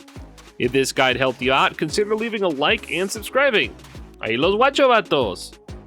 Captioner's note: Spanish